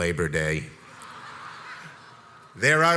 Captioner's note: crowd laughs